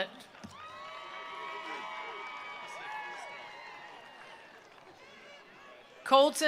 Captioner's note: attendees cheering; attendees applauding